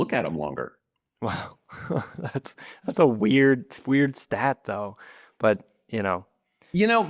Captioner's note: laughs